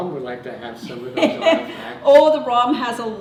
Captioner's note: laughter